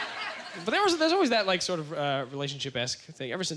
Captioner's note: audience laughter